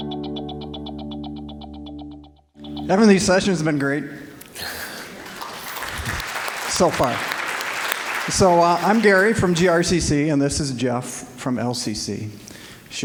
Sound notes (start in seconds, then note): 0.0 bright, ambient tonal music; 4.9 applause